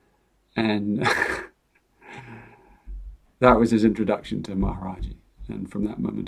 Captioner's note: chuckles